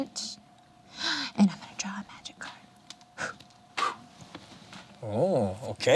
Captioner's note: blows